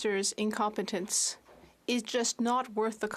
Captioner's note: speaking French